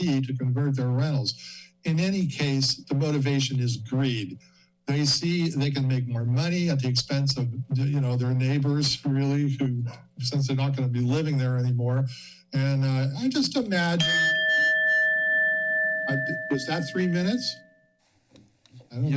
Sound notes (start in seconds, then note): 14.0 bell rings